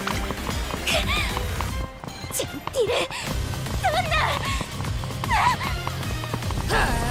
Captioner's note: gasp